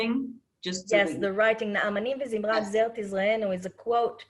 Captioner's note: speaking Hebrew